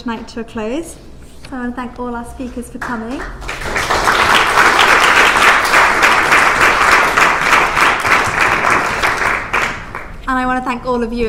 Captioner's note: applause